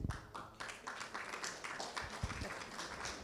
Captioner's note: clapping